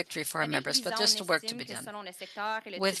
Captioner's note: speaking French